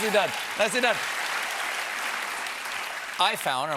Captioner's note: applause